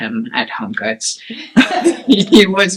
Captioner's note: laugh